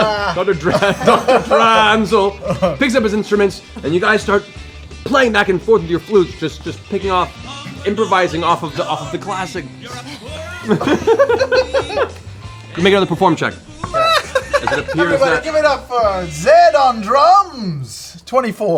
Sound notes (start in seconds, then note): 10.5 laughs